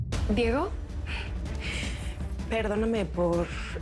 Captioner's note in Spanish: none